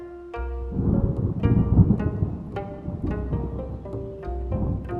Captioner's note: thunder clapping